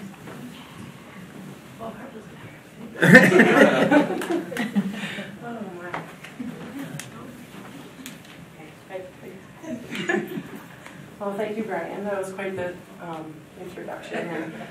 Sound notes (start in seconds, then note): 3.0 audience laughing